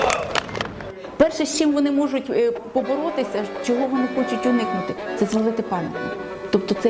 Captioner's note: in Ukrainian